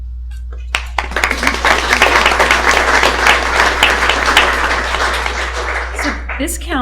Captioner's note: applause